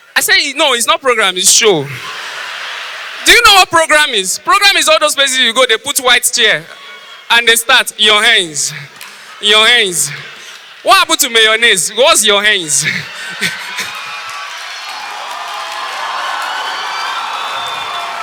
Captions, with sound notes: I said “No its not a program. It’s a show". Do you know what program is? Programme is all those places you go to and they arrange white chairs and they start “your hands (in a local accent)" What happened to mayonnaise? What’s your “heinz"? *Audience applause*